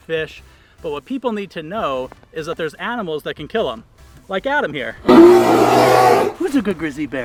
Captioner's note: bear growl